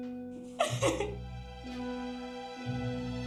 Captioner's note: crying; soft dramatic music